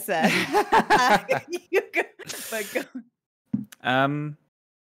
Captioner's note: laugh